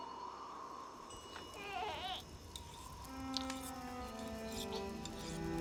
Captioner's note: baby murmuring